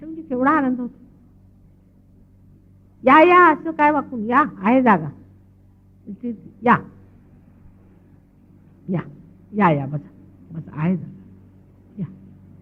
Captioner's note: shree mataji speaking in marathi